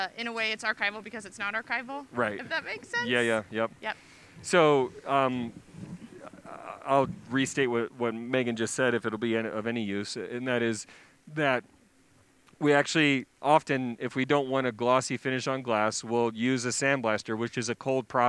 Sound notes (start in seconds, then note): 5.0 laughs